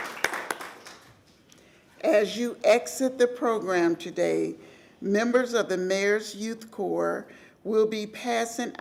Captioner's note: applause